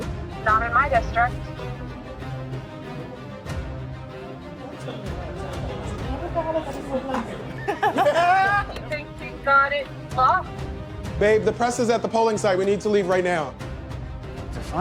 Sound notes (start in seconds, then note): 1.5 upbeat suspenseful music; 7.6 all laughing